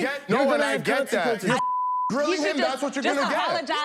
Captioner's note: beep